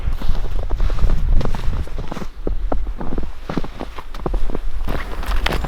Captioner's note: footsteps rustling in snow